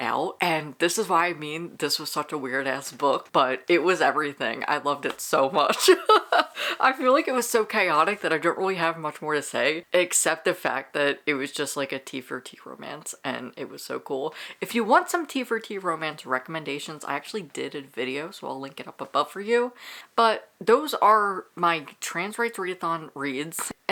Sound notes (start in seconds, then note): 5.8 laughing